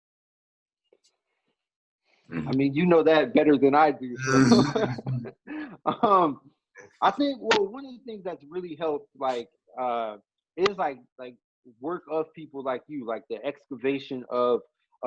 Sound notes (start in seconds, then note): 1.2 whispers; 4.2 laughs